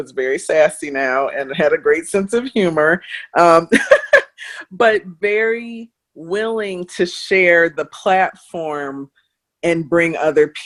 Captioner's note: laughs